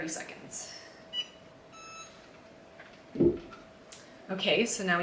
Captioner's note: machine beeps